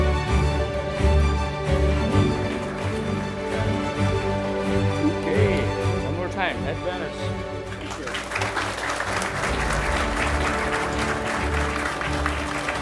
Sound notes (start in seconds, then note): 2.0 attendees applauding; 7.6 attendees applauding; 9.9 upbeat music